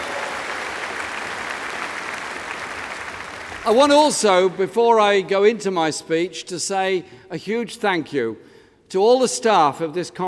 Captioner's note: applause